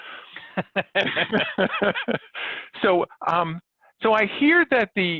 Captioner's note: both laughing